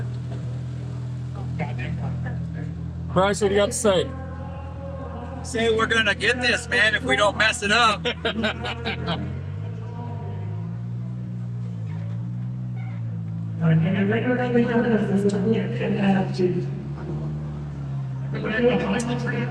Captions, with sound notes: Bryce, what do you have to say? Say we're gonna get this, man, if we don't mess it up. (laughing) (crowd chattering)